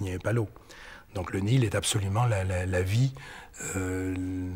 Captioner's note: French spoken audio